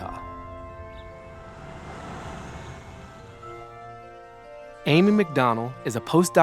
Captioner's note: birds chirping; light music continues